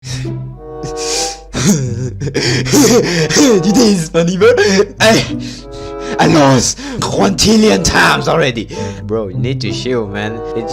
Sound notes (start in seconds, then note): 5.4 breathing air; 8.7 breaths more air